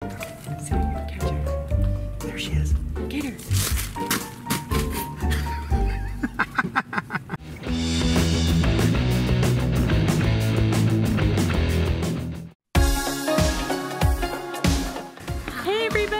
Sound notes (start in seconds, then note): 5.1 light laughing; 7.5 fun exciting music; 12.7 upbeat rhythmic music